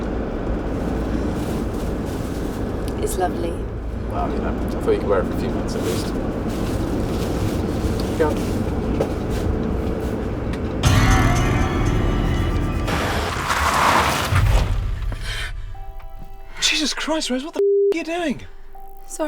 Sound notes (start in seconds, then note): 10.8 ominous music; 15.5 gasping